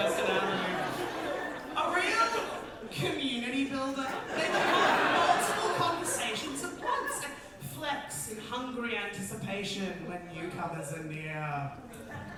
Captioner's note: audience laughter